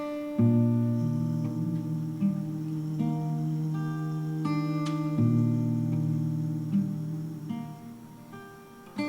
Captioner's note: humming